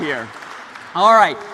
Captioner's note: applause